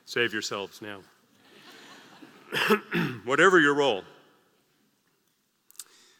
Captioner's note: laugh; cough